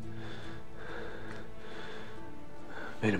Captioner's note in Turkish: Nefes sesi